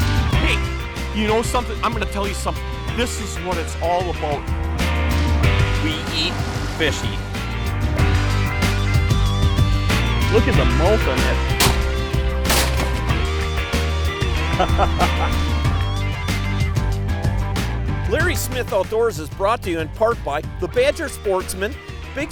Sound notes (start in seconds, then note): 11.6 gun shots; 14.4 laughing